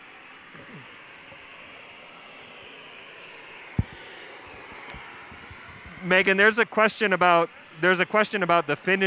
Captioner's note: pause; sound of blowtorch; microphone thump